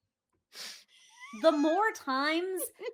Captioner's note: laughs